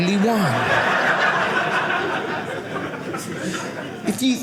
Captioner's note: audience laughing